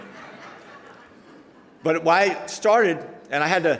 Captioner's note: audience laughter